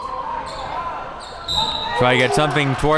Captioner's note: whistle blows